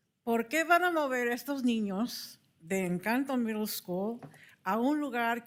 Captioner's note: speaking in Spanish